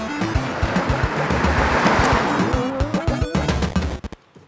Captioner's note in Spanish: Auto pasa rápido